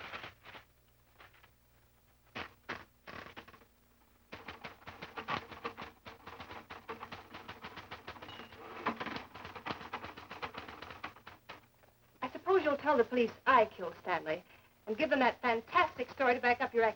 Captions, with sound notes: [typing] I suppose you'll tell the police I killed Stanley and give them that fantastic story to back up your accusations.